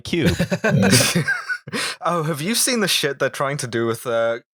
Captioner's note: laughter